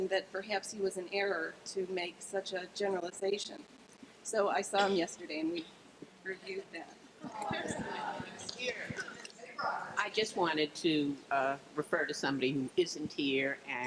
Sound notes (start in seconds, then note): 7.2 crowd